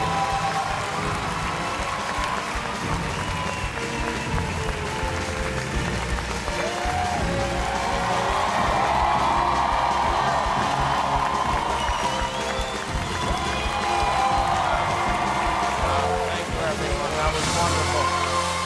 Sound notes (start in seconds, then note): 1.0 cheers and applause